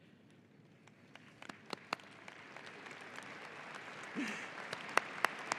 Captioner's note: audience applauding